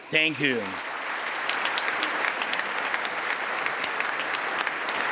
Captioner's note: congress applauding